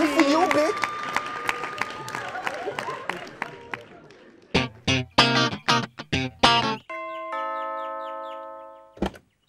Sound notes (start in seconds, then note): 4.5 upbeat music; 6.8 doorbell rings